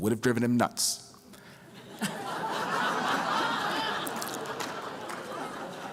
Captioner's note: laughter